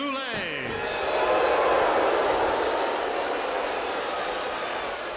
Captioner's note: audience jeering